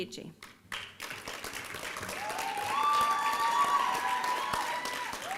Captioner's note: applause and cheering